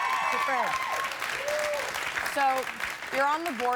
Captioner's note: cheers and applause